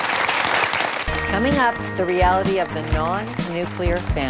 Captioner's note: applause